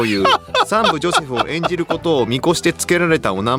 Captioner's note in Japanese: 笑い